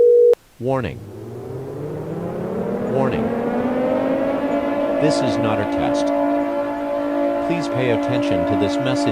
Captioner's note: sirens start